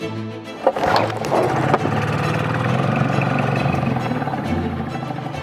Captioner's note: starting boat engine